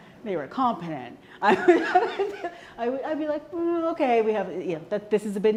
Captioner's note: laughter